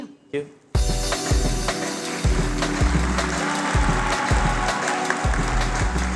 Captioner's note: applause